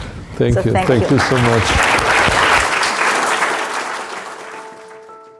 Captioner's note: audience applauding